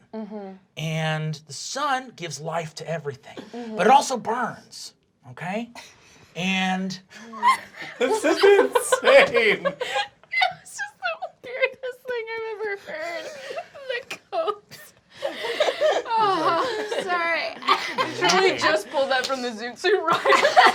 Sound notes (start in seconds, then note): 5.8 everyone laughing; 20.0 laughing